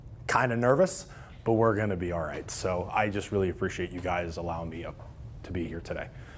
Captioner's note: none